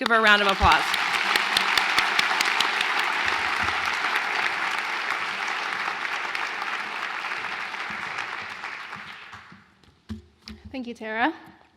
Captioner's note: applause